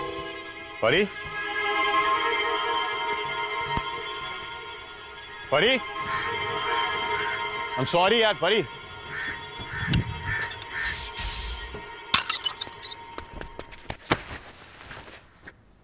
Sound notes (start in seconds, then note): 5.9 crows cawing; 12.1 gate sound